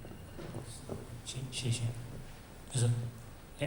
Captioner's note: Mandarin